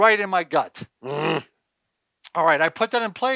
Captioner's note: grunts